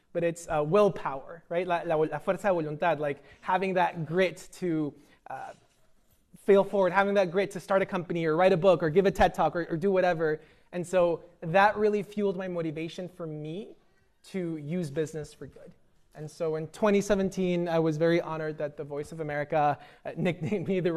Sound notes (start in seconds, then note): 2.1 speaking spanish